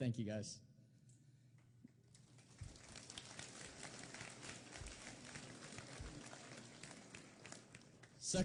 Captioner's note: applause